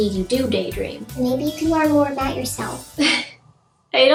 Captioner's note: high-pitched voice; laughs